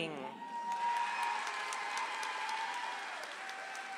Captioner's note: audience applauds